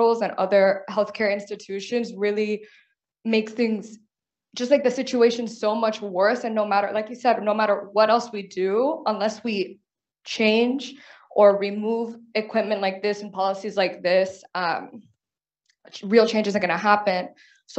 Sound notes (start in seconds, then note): none